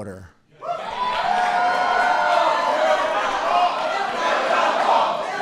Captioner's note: applause